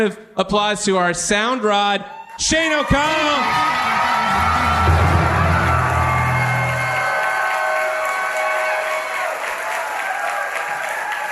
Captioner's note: audience applauds, plays guitar riff